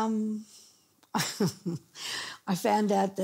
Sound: chuckling

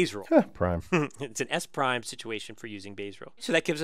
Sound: laugh

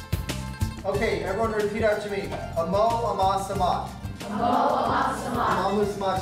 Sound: speaking latin; teacher and students speaking Latin

